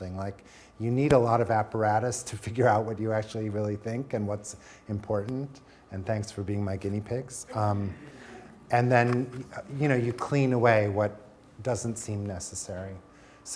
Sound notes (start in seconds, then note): 7.5 audience chuckling